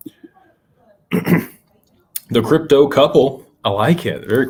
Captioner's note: clears throat